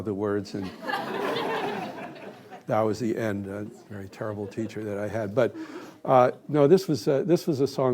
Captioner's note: laughter